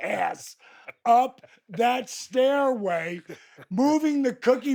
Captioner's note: Steve laughs